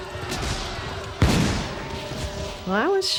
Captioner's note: explosions